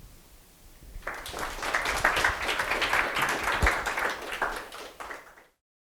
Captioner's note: applause